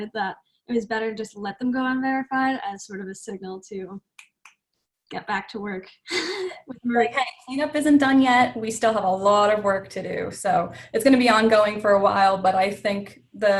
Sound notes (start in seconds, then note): 4.1 snaps finger